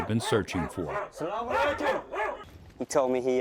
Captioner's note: dogs barking